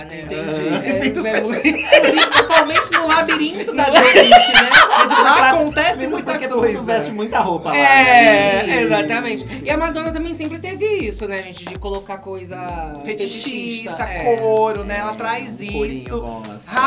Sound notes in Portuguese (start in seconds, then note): 4.8 risos